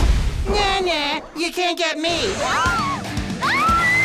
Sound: the spies scream

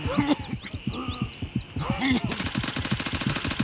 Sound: gunfire

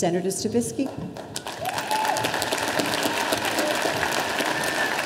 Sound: audience applauding

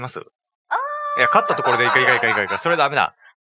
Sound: laughs

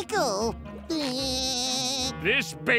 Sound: laughing

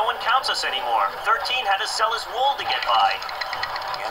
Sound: teeth chattering

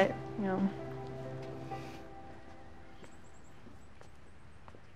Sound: footsteps

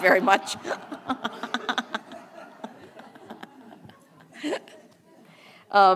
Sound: laugh

